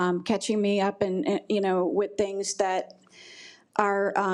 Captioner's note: none